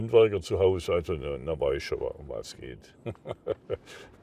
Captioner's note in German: Er lacht